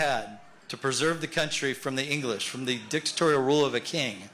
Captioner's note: cheers and applause